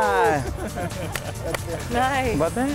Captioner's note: lalaugughthterer